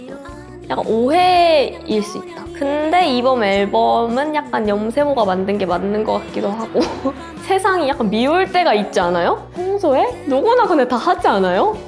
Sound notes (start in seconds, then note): 6.6 laugh